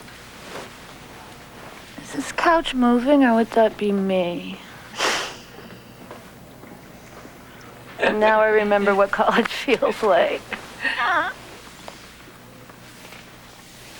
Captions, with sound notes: IS THIS COUCH MOVING OR WOULD THAT BE ME? [CHUCKLES] AND NOW I REMEMBER WHAT COLLEGE FEELS LIKE. [GRUNTS]